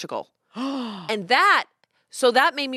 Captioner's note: gasps